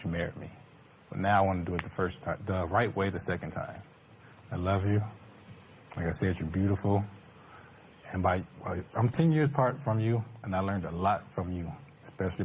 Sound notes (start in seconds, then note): none